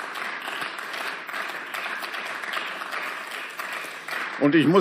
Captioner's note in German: Beifall